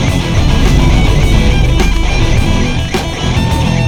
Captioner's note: sword whooshes